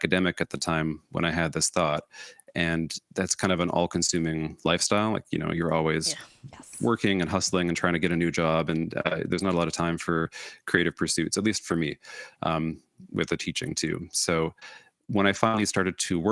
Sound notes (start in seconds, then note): none